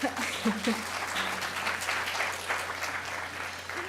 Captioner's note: applause